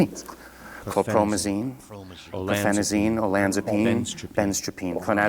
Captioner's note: voices chant in background